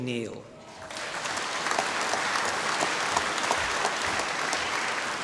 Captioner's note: applause